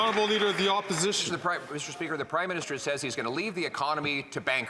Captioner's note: some Applause